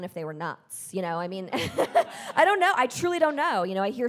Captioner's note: chuckles